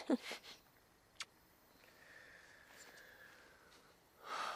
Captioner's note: both laughing